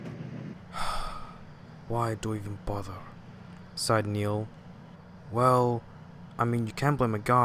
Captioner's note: sigh